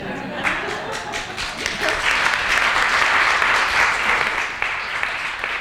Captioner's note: applause